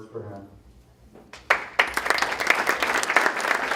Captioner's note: applause